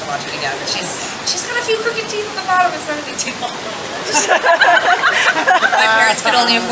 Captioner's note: laughing